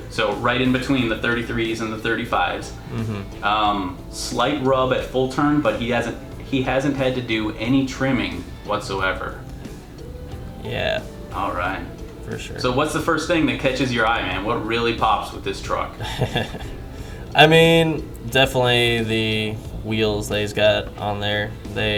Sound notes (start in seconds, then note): 16.0 chuckles